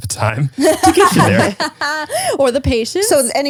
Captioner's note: laughs